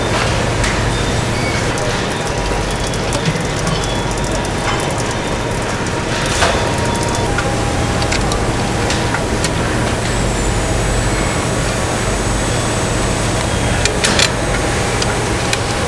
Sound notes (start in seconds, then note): 7.6 screaming